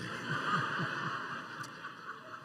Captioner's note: laughter